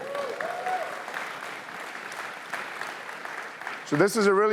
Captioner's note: cheering